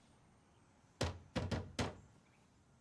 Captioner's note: knock at door